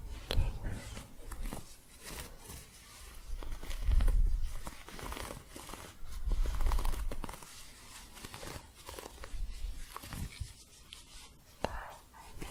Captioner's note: soft scratching